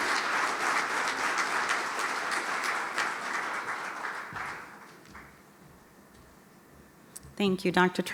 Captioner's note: applause